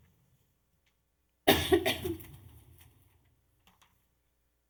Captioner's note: coughing